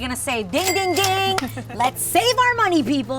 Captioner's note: cash register ringing